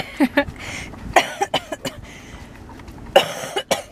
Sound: laughs

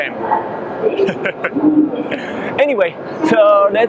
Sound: laughs

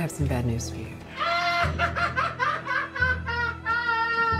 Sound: laughing

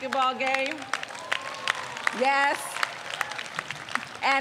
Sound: audience applauds

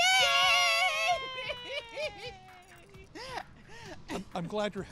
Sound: giggles

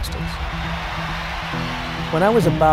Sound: crowd cheers

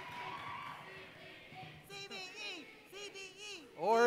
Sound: cheering

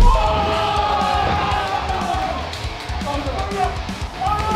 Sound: crowd exclaiming; cheering

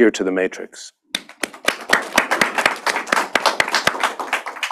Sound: applause

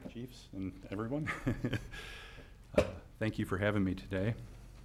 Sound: chuckles

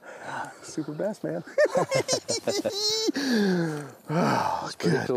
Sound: laughs

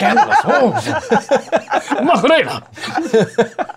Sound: laughter

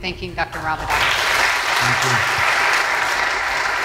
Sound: applause

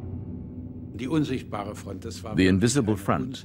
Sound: man speaking German

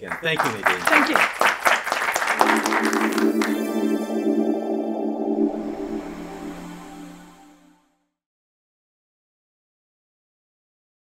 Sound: applause

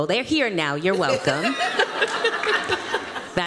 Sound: laughter

